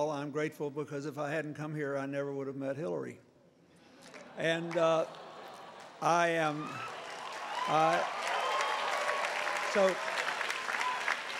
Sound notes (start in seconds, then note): 4.0 applause